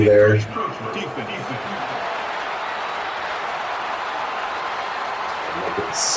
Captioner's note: crowd Noises